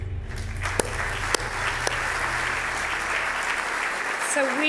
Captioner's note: audience applauding